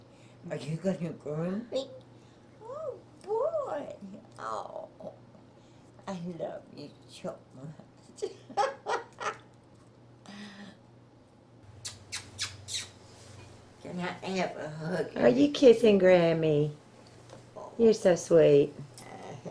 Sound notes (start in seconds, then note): 8.2 laughter; 11.7 kissing sounds